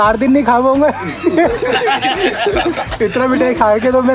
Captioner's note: laughing